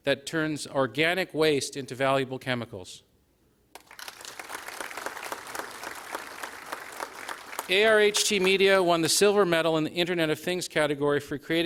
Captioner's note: applause